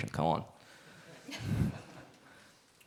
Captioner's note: audience laughs